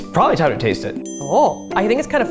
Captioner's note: timer dinging